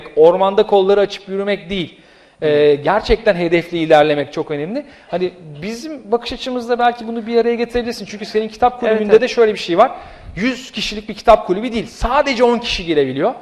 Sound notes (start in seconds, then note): none